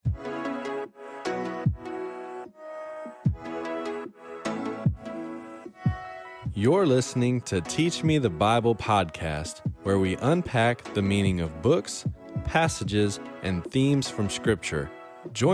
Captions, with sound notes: (light music) - [Voiceover] You're listening to Teach Me The Bible Podcast, where we unpack the meaning of books, passages, and themes from scripture.